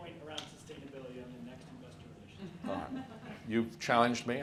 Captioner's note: faintly speaking